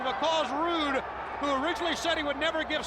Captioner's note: crowd cheering